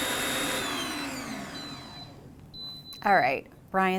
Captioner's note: mixer beeping